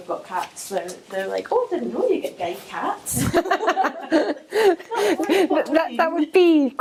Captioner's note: laughing